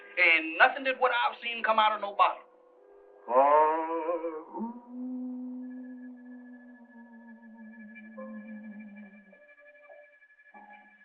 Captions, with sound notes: Ain't nothing of what I've seen come out of no bottle. [howling continues]